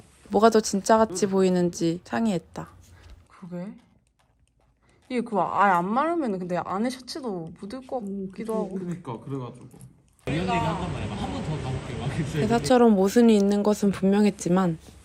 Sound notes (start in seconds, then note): 3.4 sounds of staff discussing